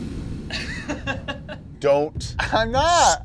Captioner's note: laughing